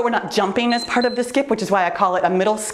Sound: timer beeps

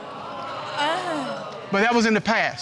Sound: audience exclaiming

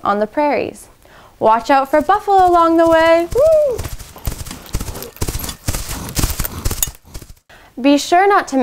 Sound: sound of buffalo running through grass

